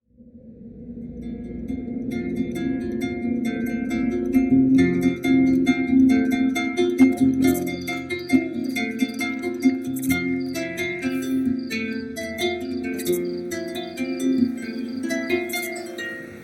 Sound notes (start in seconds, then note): 1.5 celtic music; 7.3 owl hooting; 10.1 snake rattles; 13.8 wind blowing